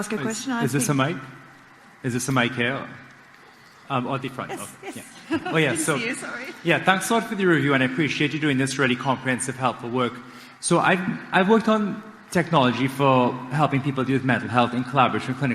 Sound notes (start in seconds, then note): 4.4 laughs